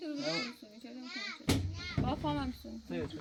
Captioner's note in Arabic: بكاء